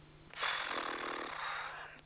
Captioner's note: exhales